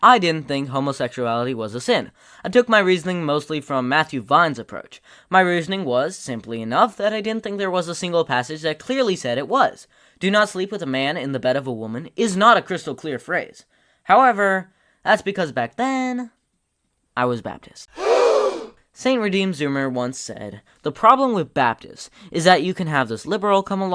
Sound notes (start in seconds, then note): 17.9 gasp